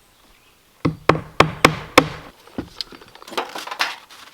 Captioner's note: hammer pounding